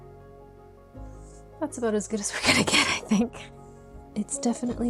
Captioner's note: laughs